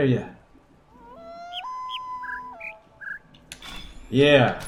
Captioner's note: coyote howls ˩˧˥˥ ˧; bird chirps five notes